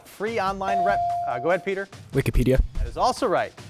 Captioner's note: bell dings